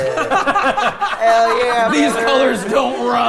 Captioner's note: players laughing